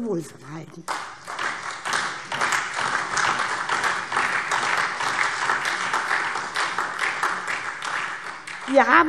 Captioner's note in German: Beifall SPD und DIE LINKE